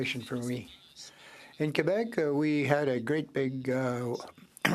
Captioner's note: speaking French